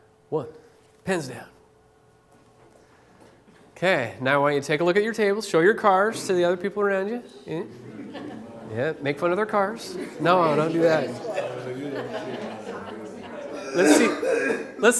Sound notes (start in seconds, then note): 7.6 laughter; 13.1 chatter